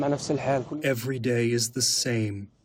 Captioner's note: through translator